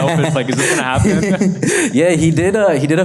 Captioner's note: laughs